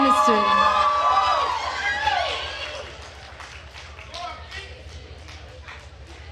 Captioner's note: attendees cheering and applauding